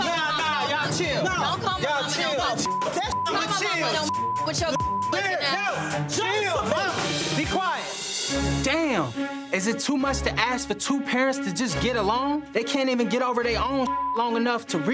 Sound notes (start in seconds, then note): 2.6 beeps continue; 2.6 beep; 13.8 beep